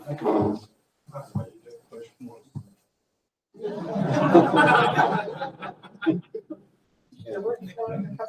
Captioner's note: laughter